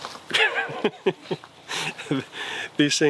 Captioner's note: laughs